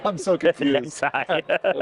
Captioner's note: laughter